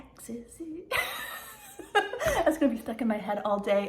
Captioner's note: laughing